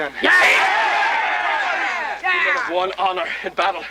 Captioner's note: Aplausos